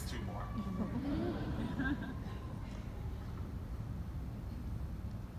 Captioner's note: audience laughing